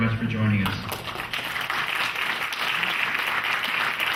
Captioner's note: clapping